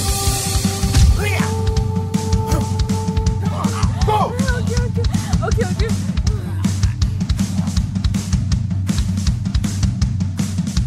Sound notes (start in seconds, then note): 1.3 grunts; 7.0 upbeat rock music continues